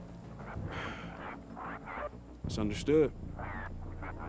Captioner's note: sighs